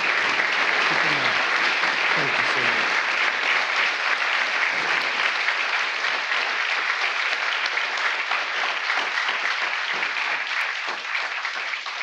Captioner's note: applause